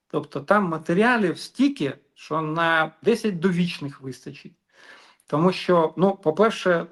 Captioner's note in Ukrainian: сопіння